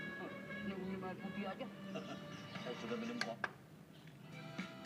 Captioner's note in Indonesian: suara tv